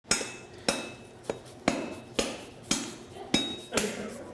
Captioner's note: clanging